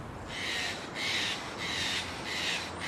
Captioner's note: crows caw